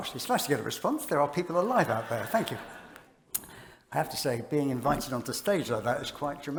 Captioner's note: laughter